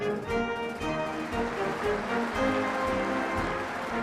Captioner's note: applause